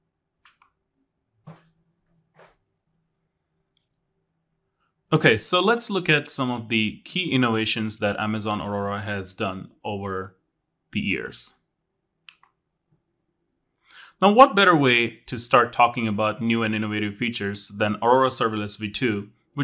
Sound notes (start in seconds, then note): 0.4 remote clicking; 1.8 accessory clattering; 12.2 remote clicking